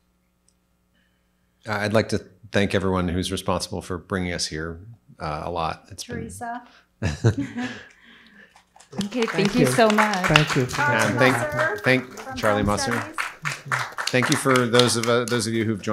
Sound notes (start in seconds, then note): 7.0 group chuckles; 9.4 audience applauds; 13.2 audience applauds